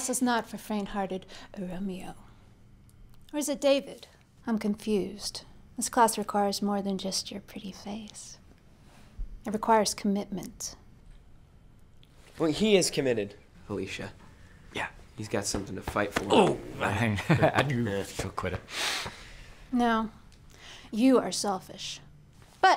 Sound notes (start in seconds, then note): 16.9 chuckles